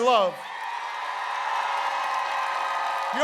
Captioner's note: applause